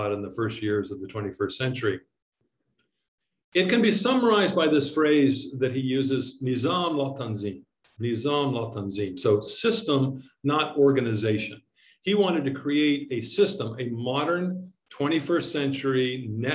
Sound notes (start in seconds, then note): 6.5 speaking in foreign language